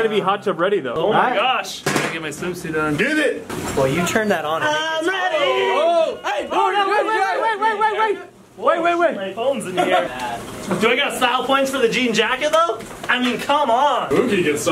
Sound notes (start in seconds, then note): 7.5 shouting